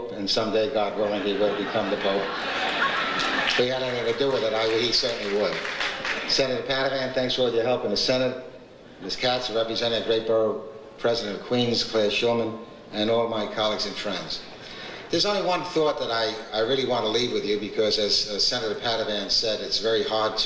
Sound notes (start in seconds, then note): 2.5 audience laughs